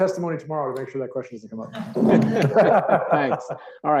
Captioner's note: laughs